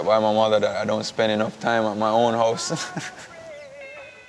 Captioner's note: laughs